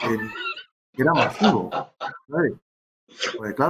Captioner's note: laughs